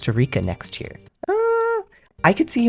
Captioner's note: doubtful high-pitched “ehhh”